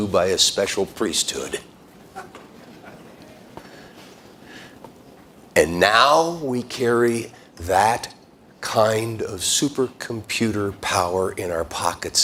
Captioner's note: laughter